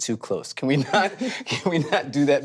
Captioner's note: laughs